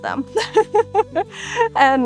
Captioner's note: laugh